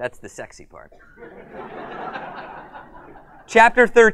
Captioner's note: uproarious laughter